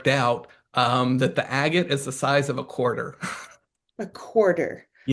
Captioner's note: chuckles